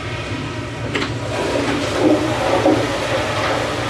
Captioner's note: the toilet flushes from the bathroom